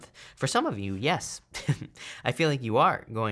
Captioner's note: laughs